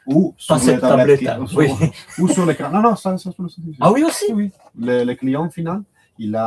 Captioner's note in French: rires